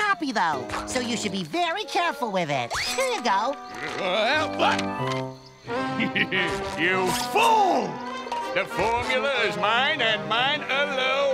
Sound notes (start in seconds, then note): 3.6 cackles